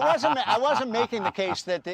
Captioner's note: laughter